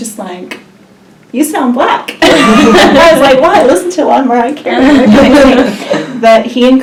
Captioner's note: laughs